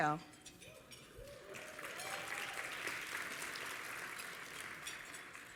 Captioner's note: applause